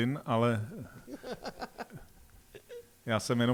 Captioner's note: laughter